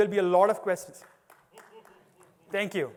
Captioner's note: applause